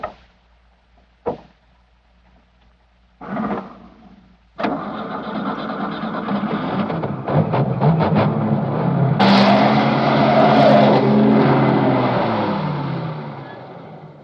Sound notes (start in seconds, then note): 4.5 engine sputters, then starts